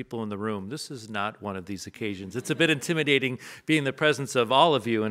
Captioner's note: audience laughs